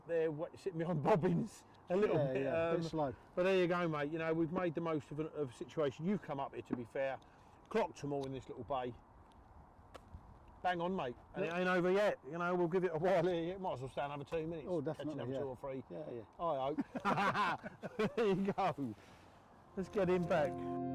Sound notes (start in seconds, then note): 16.7 laughing